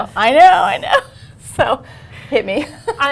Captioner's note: laughter